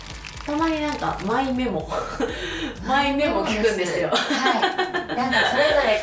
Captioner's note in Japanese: 笑い